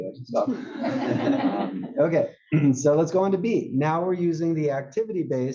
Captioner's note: laugh